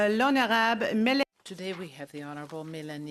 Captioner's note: speaking French